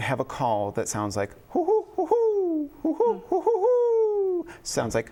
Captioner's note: mimics owl call